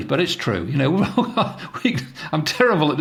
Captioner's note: laughs